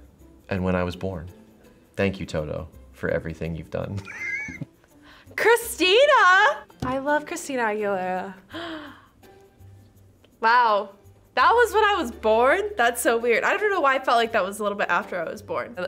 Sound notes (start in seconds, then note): 3.9 chuckles; 8.6 gasps